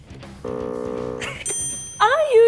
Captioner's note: buzz; laughs; ding